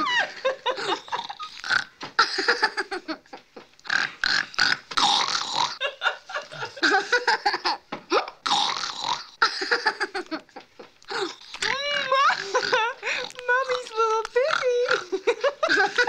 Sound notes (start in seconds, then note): 0.0 Mother Parker laughing; 1.8 oinking; 2.3 giggling; 4.0 Randy oinking; 5.8 Mother Parker laughing; 5.8 Randy laughing; 8.4 Randy snorting; 9.6 laughing; 15.4 Randy laughing